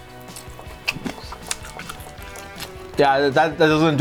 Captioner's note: chews